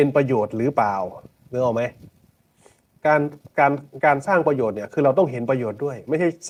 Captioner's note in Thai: เสียงสูดหายใจ